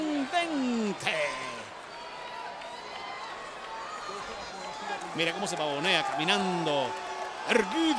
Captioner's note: applause